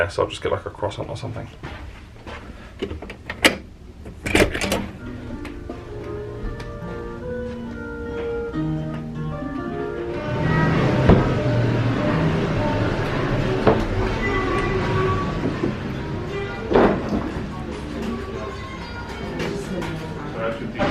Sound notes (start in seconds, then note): 4.0 door unlocking and opening; 6.7 quiet mellow music